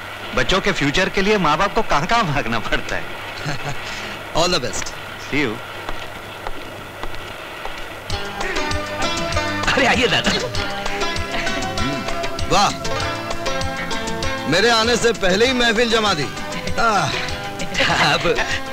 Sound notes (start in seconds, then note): 3.4 laughs; 8.3 gasps